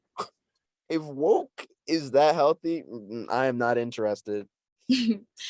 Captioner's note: scoffs